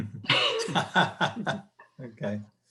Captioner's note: panelists chuckling